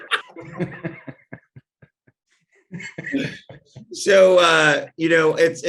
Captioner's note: both laugh